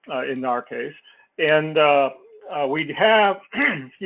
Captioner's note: cough